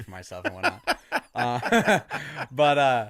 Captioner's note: bemused chuckling